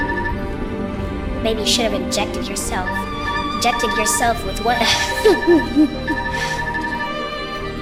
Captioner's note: chuckles